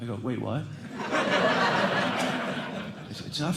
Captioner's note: laughter